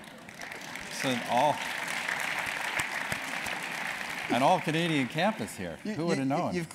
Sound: applause

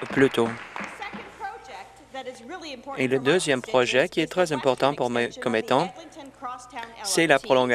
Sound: some Applause

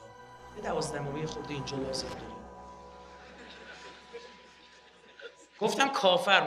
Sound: people laughing

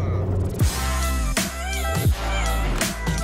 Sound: engine revving; upbeat music

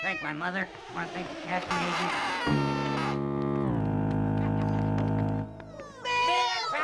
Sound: foghorn

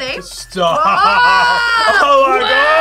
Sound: laughs

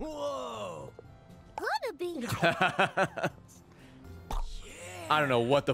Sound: laughs

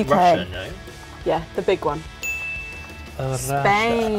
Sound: bell dings

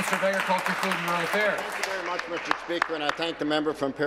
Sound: applause

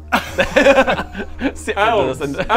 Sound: laughs?

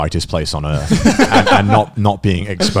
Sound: laughing loudly

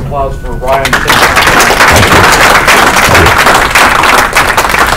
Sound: audience clapping

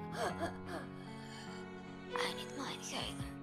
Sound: whispers

